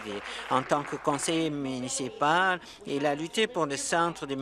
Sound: applause

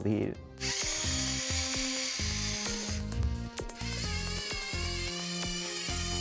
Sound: electric rover motor

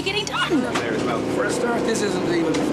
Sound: construction noise drowns out speaker

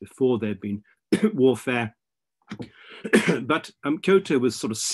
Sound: coughing

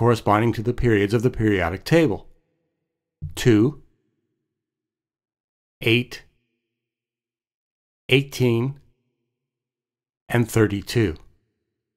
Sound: pause

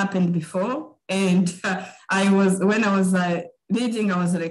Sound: chuckling

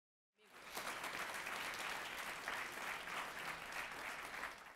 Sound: audience clapping

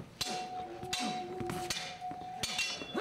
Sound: sword fighting

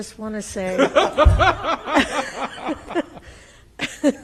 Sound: laughs

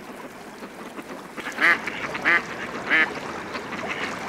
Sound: quacking

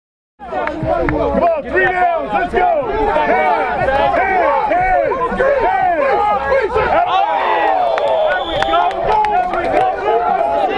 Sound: yelling and Cheering

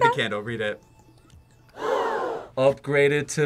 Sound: crowd gasps

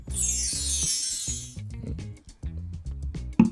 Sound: bells chime

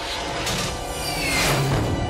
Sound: shoooooo

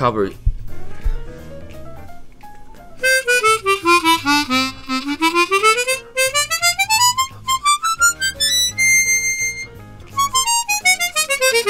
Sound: the sound of Discovery 48

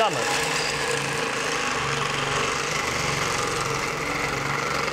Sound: machine crushing ice

